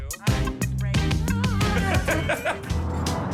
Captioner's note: laughs; upbeat music